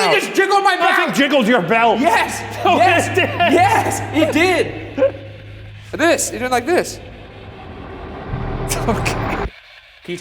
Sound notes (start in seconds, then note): 5.1 laughs; 8.6 laughs